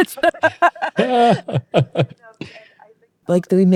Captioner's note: both laughing